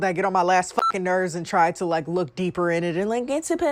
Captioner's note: beep